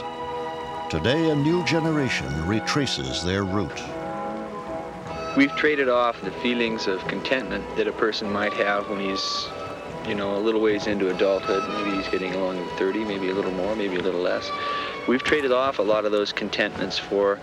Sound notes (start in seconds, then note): none